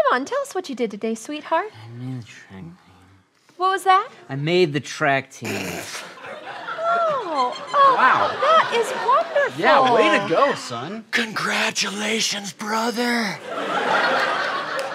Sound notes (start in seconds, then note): 5.4 laughing